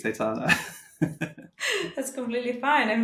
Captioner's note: laughing